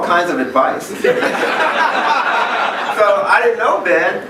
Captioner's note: laughing